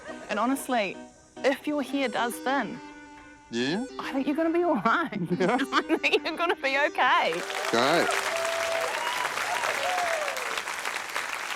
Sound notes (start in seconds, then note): 7.3 cheering, applause